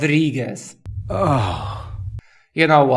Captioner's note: annoyed sigh